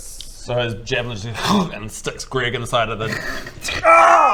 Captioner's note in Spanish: hccrrcgh